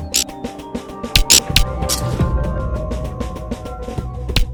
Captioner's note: sound effect